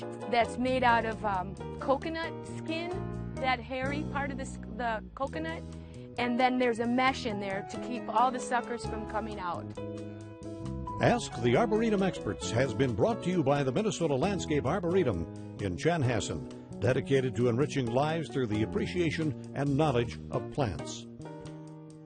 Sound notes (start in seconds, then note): 11.0 voiceover